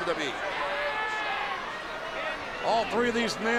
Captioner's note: audience chattering